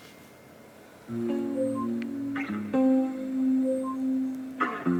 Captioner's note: message sound